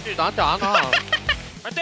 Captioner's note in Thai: หัวเราะ